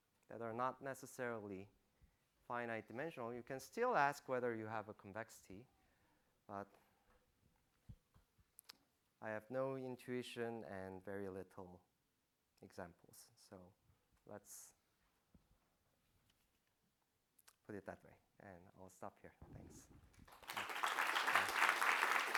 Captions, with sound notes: that are not necessarily finite dimensional, you can still ask whether you have a convexity. But I have no intuition and very little examples. So let's put it that way. And I'll stop here. Thanks. [APPLAUSE]